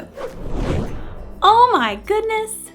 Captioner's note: whoosh